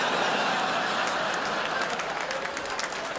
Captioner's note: crowd laughs